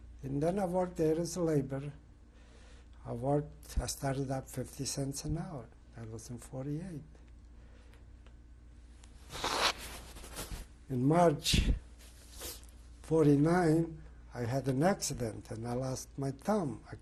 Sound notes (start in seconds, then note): 7.5 pauses for 3 seconds